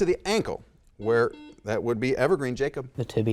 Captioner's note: buzzer dings